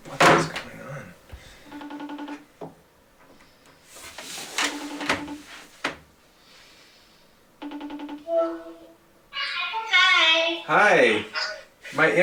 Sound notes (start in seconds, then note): 1.6 phone ringing